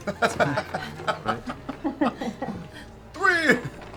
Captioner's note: laughter